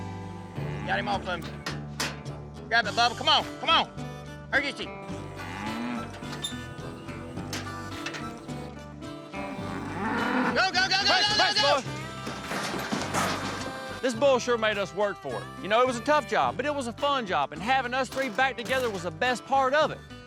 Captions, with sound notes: WE GOT HIM OFF OF YA. GRAB THAT BUBBA! COME ON! COME ON! URGENCY! [TRAILER GATES CREAK OPEN] [BULL GRUNTS] GO, GO, GO, GO, GO, GO, GO! [BULL CLATTERS ONTO TRAILER] THIS BULL SURE MADE US WORK FOR IT. YOU KNOW, IT WAS A TOUGH JOB BUT IT WAS A FUN JOB AND HAVING US THREE BACK TOGETHER WAS THE BEST PART OF IT.